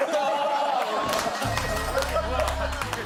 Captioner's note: laughing